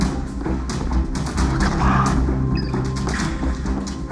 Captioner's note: signal scanner beeps